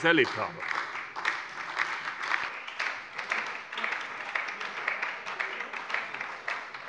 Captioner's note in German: Beifall bei der SPD und der FDP